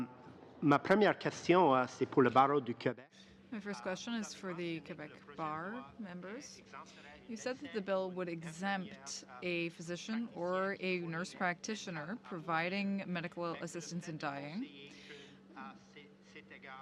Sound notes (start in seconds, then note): 3.8 speaking French